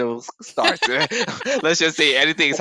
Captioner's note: laugh